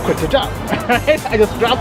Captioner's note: laughter